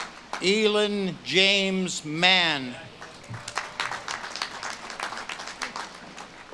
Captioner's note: audience claps and cheers